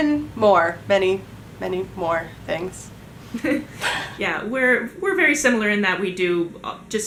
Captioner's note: laughs